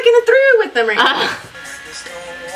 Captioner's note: laughs